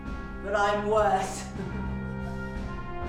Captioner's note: laughing; dramatic music